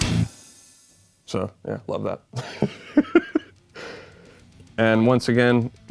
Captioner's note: laughs